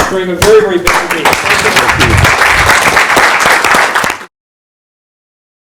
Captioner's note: audience applauds